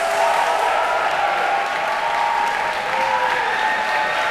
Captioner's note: cheers and applause